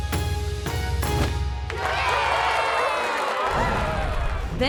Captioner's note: cheering